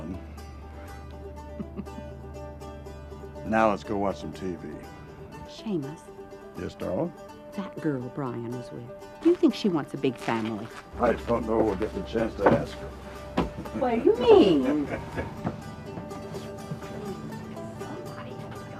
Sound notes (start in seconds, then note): 1.1 laughing